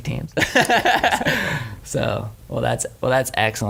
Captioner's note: laughing